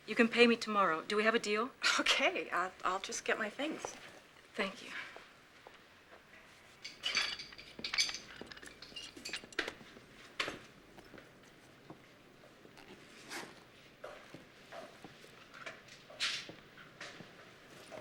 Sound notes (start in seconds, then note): 6.7 tools rattling